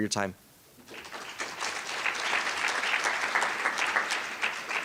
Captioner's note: audience applause